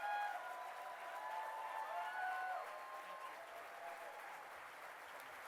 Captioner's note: applause